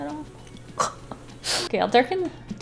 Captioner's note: chuckles